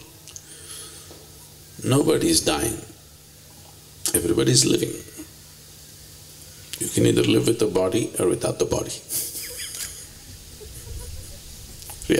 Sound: laughs

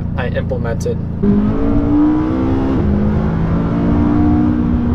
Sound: car engine roaring

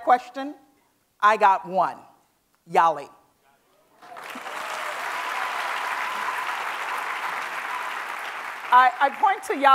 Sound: applause

